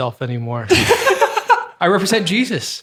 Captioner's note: group laughing